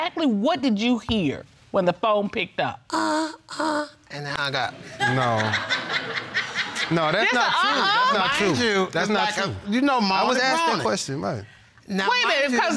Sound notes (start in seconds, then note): 3.6 moaning; 4.9 audience laughing